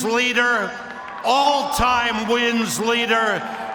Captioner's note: cheers and applause